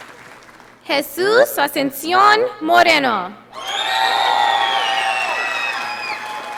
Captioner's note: audience applauding